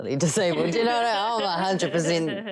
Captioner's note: laughter